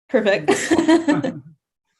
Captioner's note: chuckles